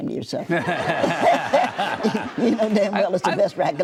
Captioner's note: audience laughs